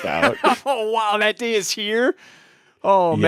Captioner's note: laughs